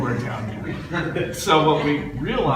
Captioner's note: laughter